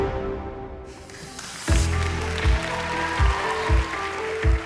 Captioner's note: cheering